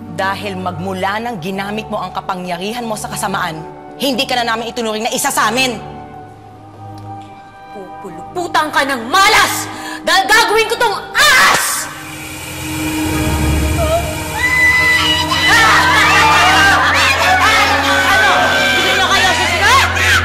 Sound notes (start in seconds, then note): 14.3 gasps, screams; 15.1 Aida continues screaming; 15.1 Divina laughs; 18.1 people yelling